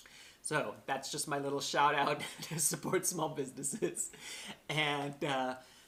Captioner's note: laughter